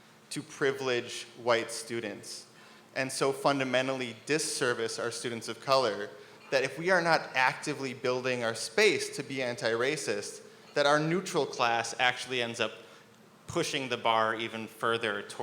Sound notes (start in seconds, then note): none